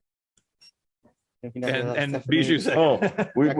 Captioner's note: laughter